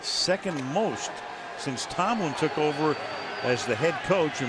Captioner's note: crowd cheering